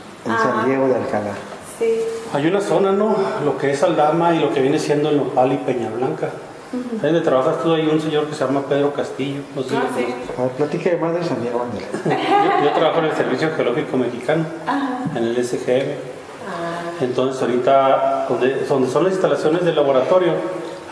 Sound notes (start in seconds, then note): 11.9 laughter